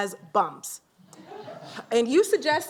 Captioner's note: laughter